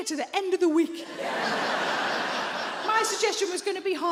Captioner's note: audience laughs